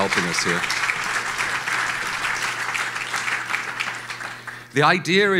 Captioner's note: audience applauds